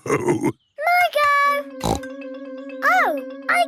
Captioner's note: snorts